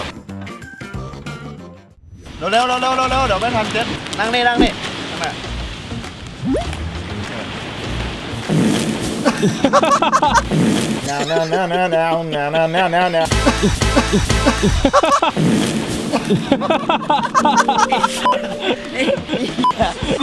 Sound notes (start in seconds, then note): 9.2 laughs; 11.1 funny melody playing; 14.9 laughs; 16.0 laughing continues; 16.1 laughs